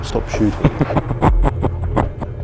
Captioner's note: laughing